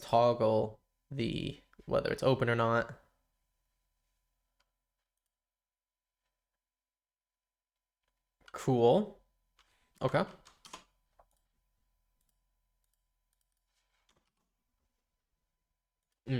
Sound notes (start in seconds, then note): 3.0 silence; 11.3 silence